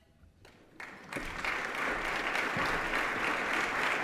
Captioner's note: applause